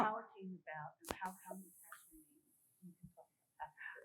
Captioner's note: murmuring